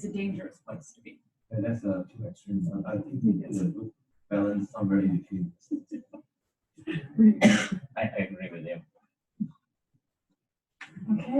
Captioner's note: laughter